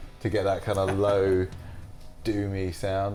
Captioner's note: laughs